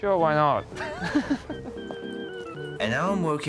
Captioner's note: laughs